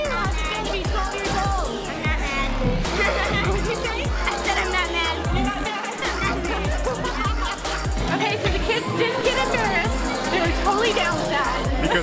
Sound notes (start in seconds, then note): 3.0 laughing; 7.2 laughing